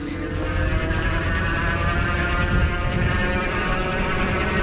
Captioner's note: motor engine roars